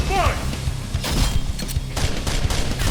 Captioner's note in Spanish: Choque de hoja; Tiros de Pistola